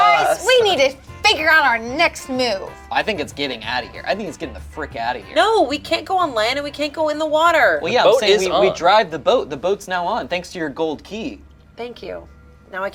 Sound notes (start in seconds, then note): none